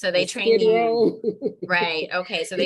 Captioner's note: laughing